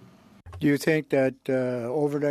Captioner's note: speaking French